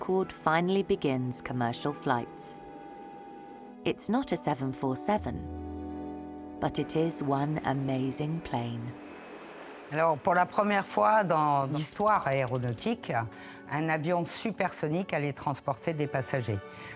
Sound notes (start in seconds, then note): 9.9 speaking French